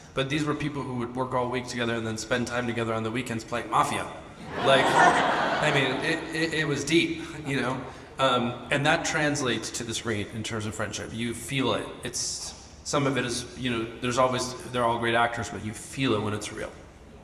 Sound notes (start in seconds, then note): 4.4 audience laughs